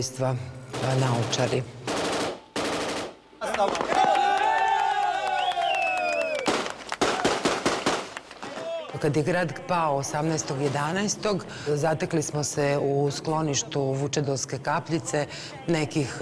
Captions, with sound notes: *Cheering* When the city fell on November 18th we found ourselves at the Vucedolska Kapljica shelter,